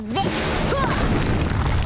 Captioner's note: grunting